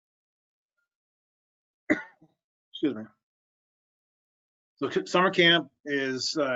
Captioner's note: coughing